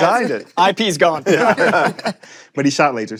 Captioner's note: laughter